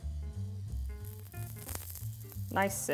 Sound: asparagus sizzles

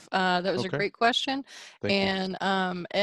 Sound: on phone

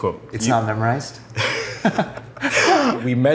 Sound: both laughing

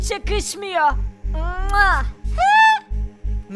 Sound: kissing sound

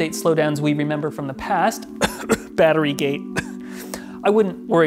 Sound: coughs

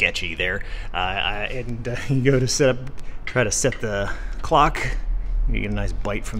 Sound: chuckles

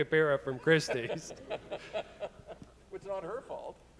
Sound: laughing; audience chuckling

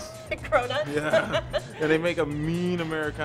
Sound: laughs

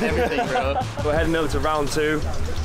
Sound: laughing

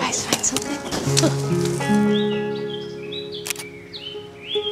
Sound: birds chirping

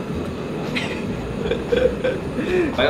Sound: laughter

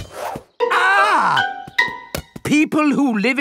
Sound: screams

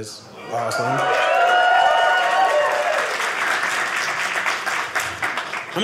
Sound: audience cheering

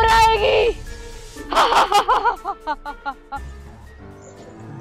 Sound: laughing

